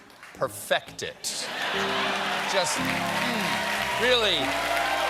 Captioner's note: laughter; piano riff